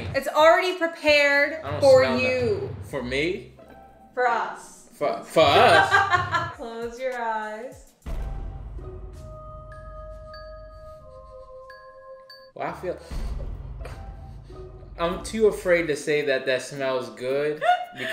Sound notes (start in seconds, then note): 5.5 laughs; 8.0 eerie music; 13.2 sniffs